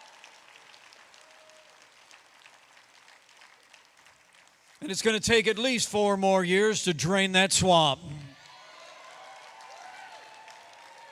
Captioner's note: applause